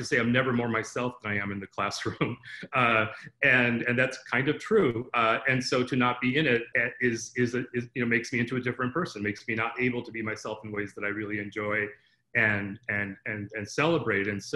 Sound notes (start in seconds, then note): 2.0 laughter